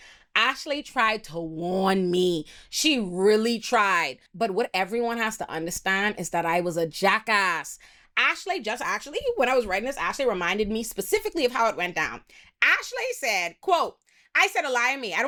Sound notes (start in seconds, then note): none